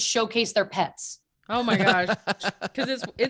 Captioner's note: laughing